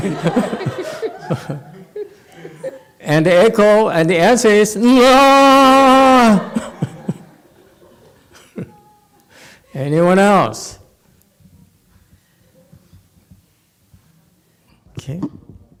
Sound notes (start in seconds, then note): 5.7 laughs